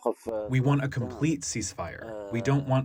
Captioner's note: through translator